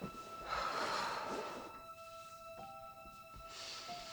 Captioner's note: slow suspenseful music; Hope sighing